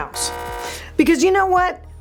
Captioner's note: buzzer ringing